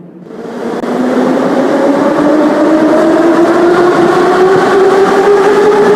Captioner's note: train leaves to the next station